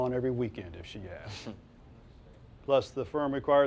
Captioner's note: Silk chortles